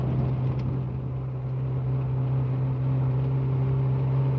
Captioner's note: engine humming